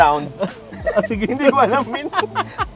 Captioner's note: both laughing; continues laughing